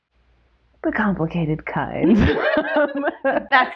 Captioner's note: laughter